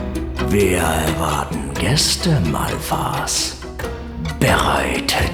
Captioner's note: Adolf Hitler's voice